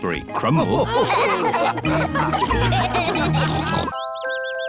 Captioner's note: all laughing